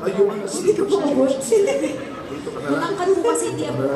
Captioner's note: laugh